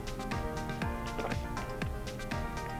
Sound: gulping

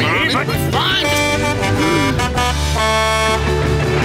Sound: truck horn honking

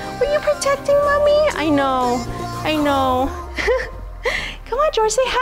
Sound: laughs

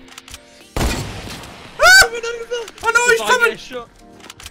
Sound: gunfire

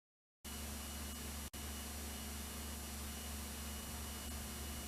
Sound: VHS static

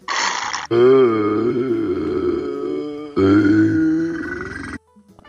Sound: burping

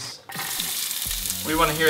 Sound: sizzle

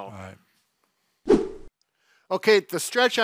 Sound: air whooshes

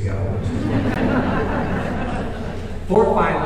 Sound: audience laughing

